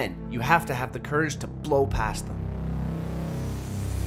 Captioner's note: none